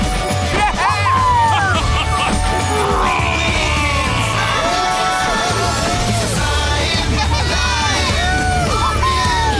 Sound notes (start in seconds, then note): 0.1 cheering; 2.7 roaring; 5.9 cheering